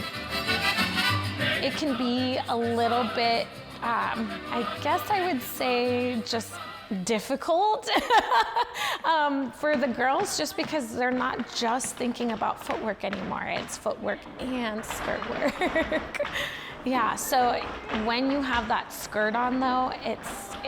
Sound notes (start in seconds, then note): 7.9 laughs; 15.4 laughs